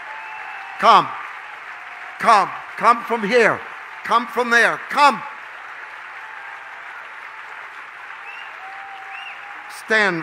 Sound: congregation cheers

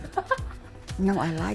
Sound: giggles

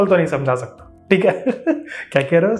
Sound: laughs

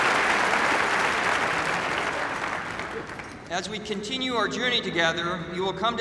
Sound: applause

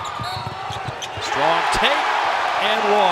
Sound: crowd cheering

